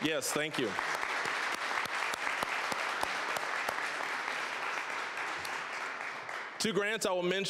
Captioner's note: applause